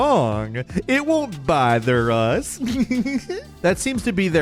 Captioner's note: giggles